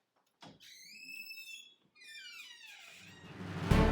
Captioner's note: squeaky door